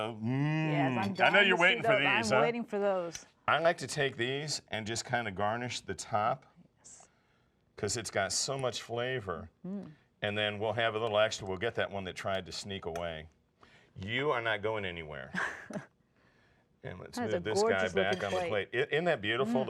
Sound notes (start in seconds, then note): 15.3 laughing